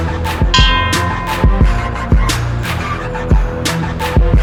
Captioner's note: bell ringing